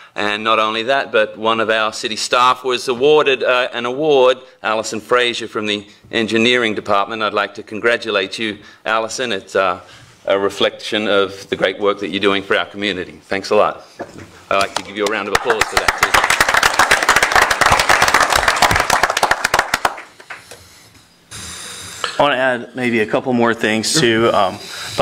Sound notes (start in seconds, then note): 15.0 applause